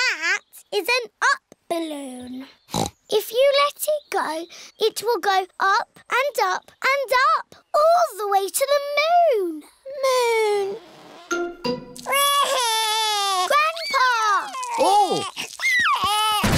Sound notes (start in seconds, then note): 2.7 snorts; 12.0 wails